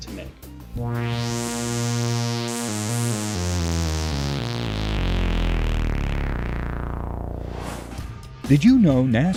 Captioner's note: sound Effects